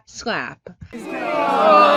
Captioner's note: crowd groans